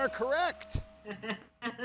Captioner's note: laughs